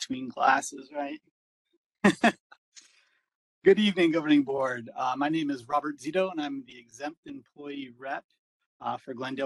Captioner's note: laugh